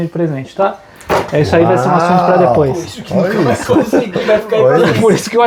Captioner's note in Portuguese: risadas